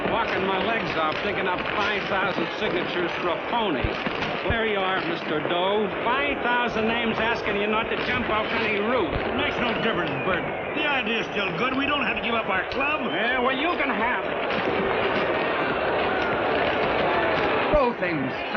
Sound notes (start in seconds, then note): 15.8 shouting